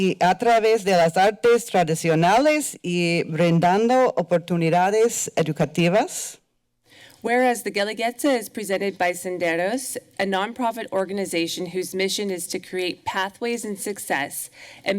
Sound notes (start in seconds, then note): 0.0 foreign language